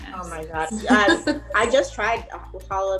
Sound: laughing

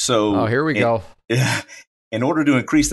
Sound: laughs

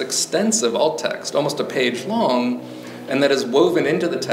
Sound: traffic buzzing

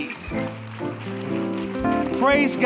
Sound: congregation applauding

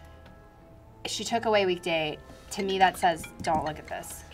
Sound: timer dings

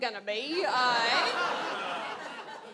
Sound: audience laughs

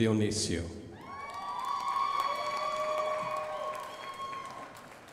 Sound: crowd applauding

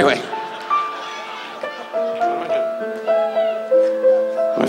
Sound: audience laughs

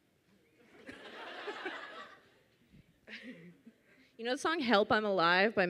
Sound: audience laughs

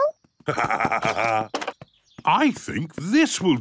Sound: laughs

